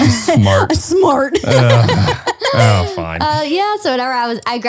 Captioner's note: laughs